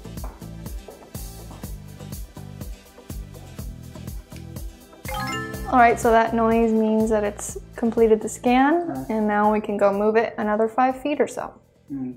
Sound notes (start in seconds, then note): 0.1 upbeat pop music; 5.0 soft chimes